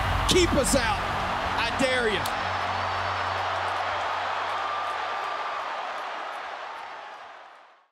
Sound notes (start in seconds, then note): 2.7 crowd cheering